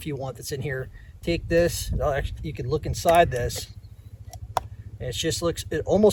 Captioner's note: lid cracks